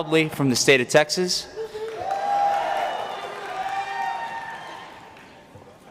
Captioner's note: applause